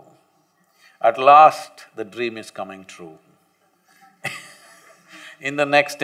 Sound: laughs

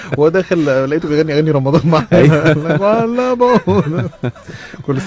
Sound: laugh!

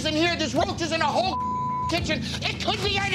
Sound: beep

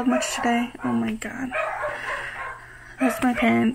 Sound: dogs barking

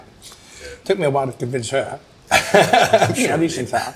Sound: laughs

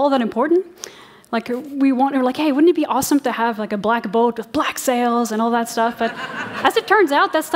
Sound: laughter

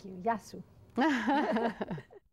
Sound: laughing

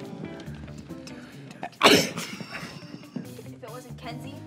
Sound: sneezes

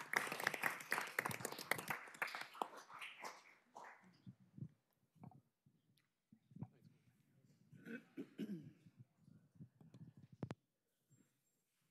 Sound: applause

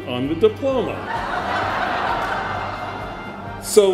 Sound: laughter

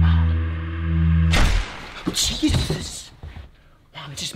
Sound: gunshot

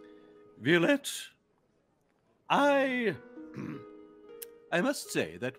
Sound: clearing throat

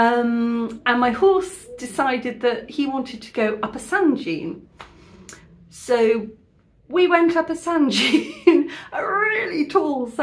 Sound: laughing

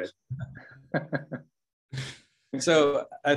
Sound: laughs

